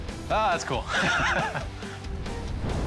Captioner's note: theme music; chuckles